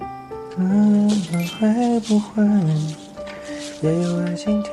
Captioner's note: humming